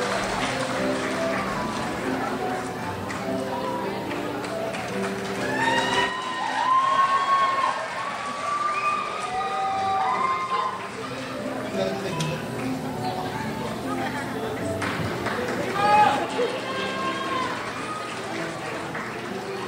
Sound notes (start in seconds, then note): 6.0 crowd cheers; 16.8 crowd applauds